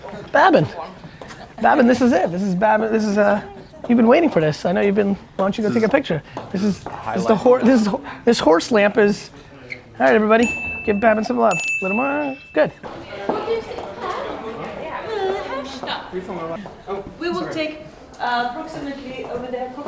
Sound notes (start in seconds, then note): 10.3 multiple bell dings; 10.4 bell ding